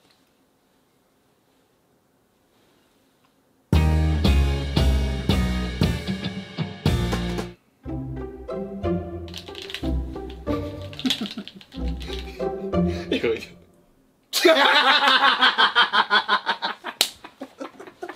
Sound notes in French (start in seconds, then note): 14.3 Rires